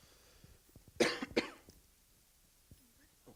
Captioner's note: coughs